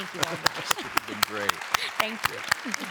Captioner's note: both laughing; applause